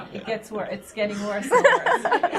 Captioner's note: laughter